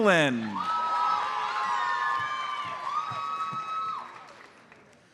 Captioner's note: audience cheers and applauds